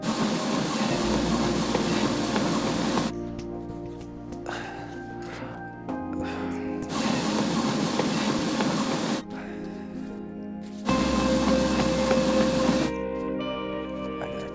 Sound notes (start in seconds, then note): 0.0 treadmill whirring loudly over dramatic electronic music; 4.6 Drew sighing; 6.9 treadmill whirring loudly; 9.5 Drew sighs; 10.8 treadmill whirring loudly